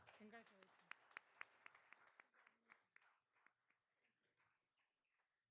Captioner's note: all applauding